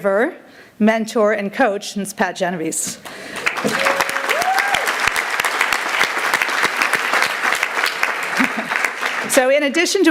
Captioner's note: applause